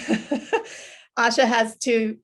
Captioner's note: laughs